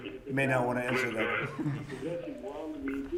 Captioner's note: laughter